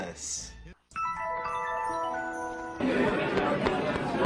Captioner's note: Arthur flashback sound; excited crowd talking